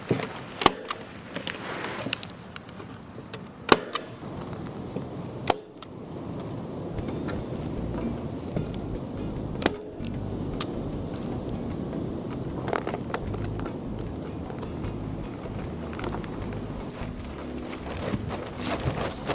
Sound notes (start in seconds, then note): 0.2 plastic crackling; 4.9 wind rustling; 8.3 calming music